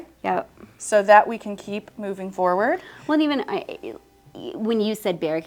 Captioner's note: stammers